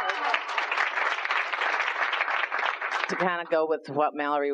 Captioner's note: applause